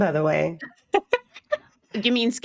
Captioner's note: laughing